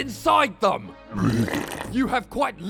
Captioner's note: grotesque wrenching echoes